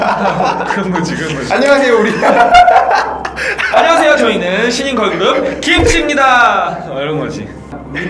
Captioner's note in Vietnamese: 웃음